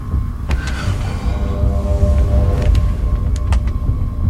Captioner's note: mouth blows; tense music continues